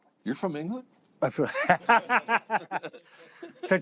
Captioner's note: laughter